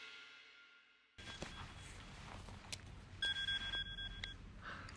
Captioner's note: cell phone ringing